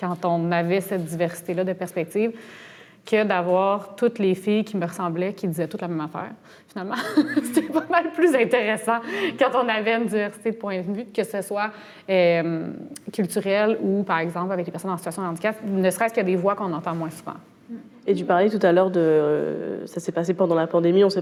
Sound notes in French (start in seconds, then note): 7.6 rire